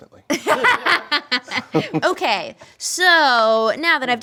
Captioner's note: laughing